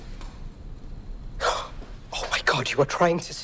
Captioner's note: gasps